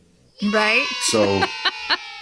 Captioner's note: children saying “Yay” sound effect